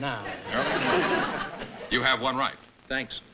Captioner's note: laughter